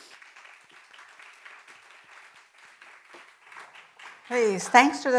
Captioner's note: audience applauding